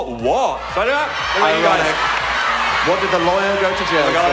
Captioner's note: audience shouting out words